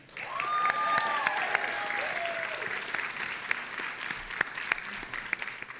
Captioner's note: audience applauding and cheering